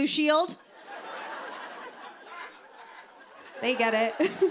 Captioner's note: laughter; laughs